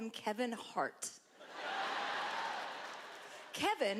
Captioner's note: laughter